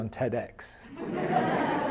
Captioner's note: audience laughs